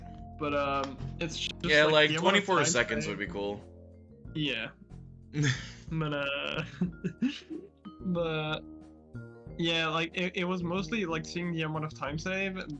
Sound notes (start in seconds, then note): 5.9 chuckles; 5.9 laughing